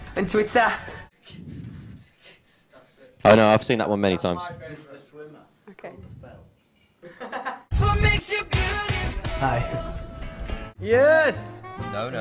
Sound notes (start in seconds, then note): 3.5 attempting beat-boxing; 7.0 laughs